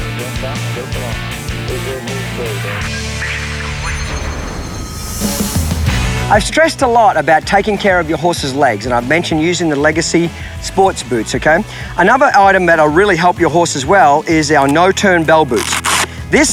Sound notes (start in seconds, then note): 4.6 determined country music; 4.6 shimmering